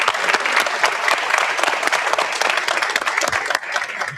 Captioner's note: audience applauds